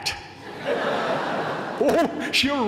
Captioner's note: laughter